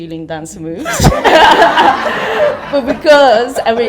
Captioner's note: audience laughter